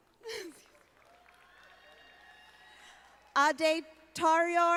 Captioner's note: audience applauding